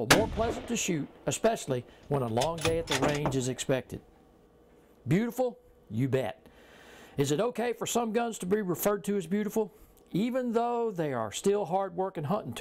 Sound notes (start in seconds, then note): 0.0 gun fires